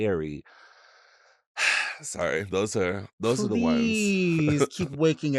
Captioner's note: sighs